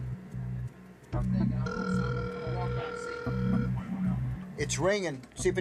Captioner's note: line ringing